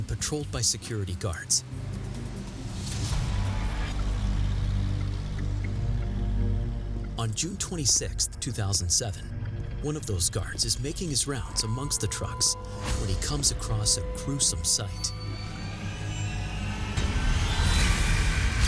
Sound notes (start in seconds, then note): 4.0 engine rumbling; 15.4 chilling music